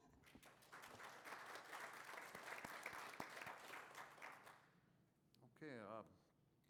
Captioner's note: applause